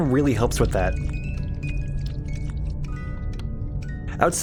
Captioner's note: nightmarionne tentacle slithering